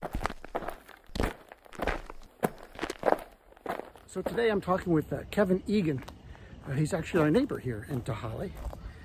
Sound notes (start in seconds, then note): 3.1 crunching footsteps